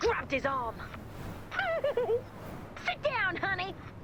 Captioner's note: yelp